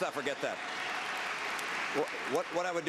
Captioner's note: applause